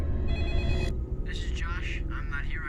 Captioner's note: phone ringing; Josh On Voicemail